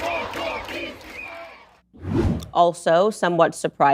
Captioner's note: Bertepuk tangan